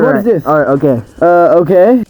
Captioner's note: confused noises